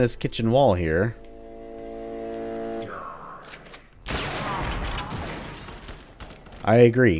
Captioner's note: bam